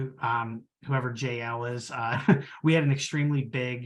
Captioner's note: chuckles